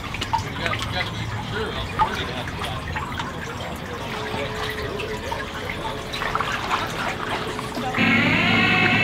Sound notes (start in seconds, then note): 2.5 people chatter